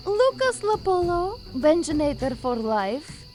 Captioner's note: none